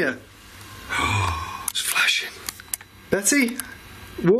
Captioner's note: gasps